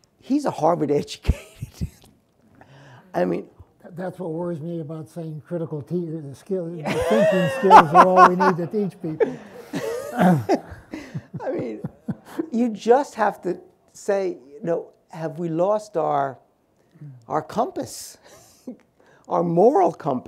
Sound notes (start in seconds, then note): 1.2 laughs; 9.7 laugh